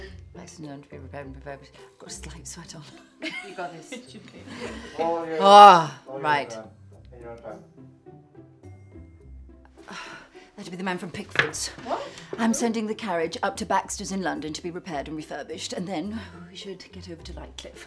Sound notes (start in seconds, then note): 3.0 laughs; 11.9 sighs